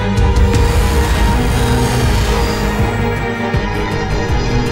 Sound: ship engines roaring

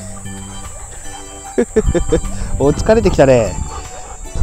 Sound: laughs

